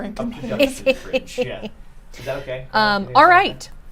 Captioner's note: snickers